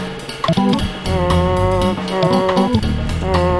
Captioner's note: honking